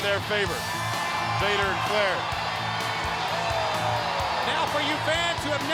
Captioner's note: crowd cheering